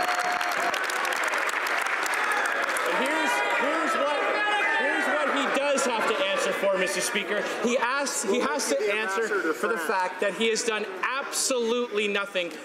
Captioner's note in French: applaudissements